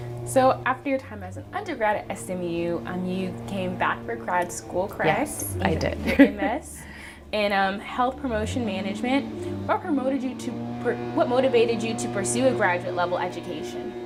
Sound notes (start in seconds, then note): 5.0 laughs